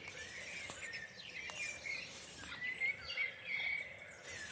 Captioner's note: snake hissing